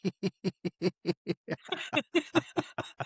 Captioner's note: both Laughing